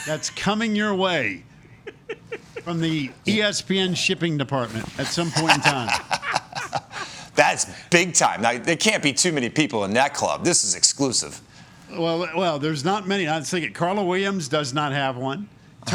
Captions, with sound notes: that's coming your way from the ESPN shipping department, at some point in time. [CHUCKLES] That's big time, there can't be too many people in that club. This is exclusive. Well, there's not many. I'll say it. Carla Williams does not have one.